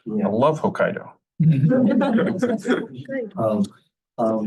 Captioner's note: laughter